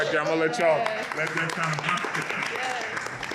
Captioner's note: audience applauds